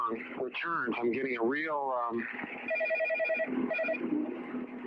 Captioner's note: phone rings